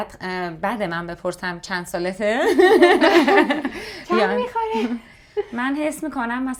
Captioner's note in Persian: خنده